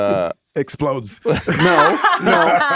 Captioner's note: laughing